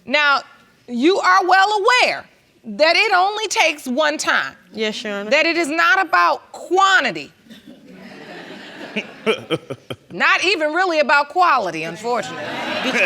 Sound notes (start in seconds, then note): 7.5 chuckles; 7.6 audience laughs